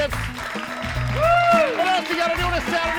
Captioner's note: audience cheering